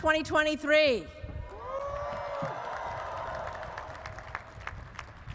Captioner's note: audience applauds